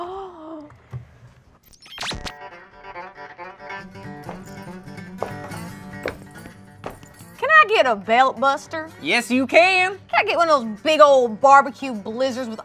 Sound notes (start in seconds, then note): 0.1 gasps; 2.8 country music; 4.0 shoes knocking